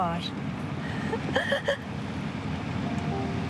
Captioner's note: sobs